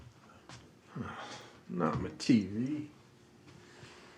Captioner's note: sighs